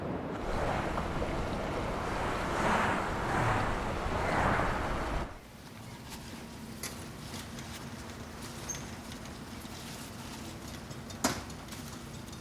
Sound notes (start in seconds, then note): 0.3 cars whooshing; 5.5 birds chirping